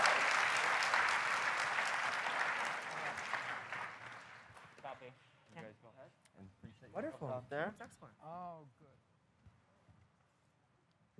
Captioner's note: applause